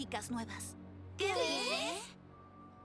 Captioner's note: frightened murmurs